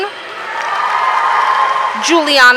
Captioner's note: audience cheering